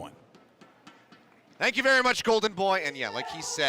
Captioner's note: cheering & applause